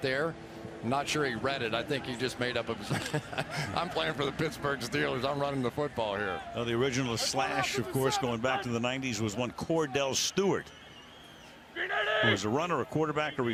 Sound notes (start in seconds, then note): 2.8 laughs